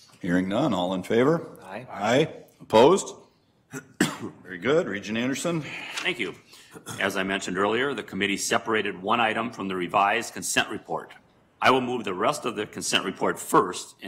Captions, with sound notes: Hearing none, all in favor, aye. - [Multiple voices] Aye. - Opposed? Very good. Regent Anderson. - Thank you. As I mentioned earlier, the committee separated one item from the revised consent report. I will move the rest of the consent report first